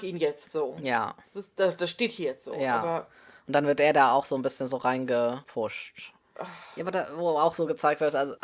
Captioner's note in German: seufzt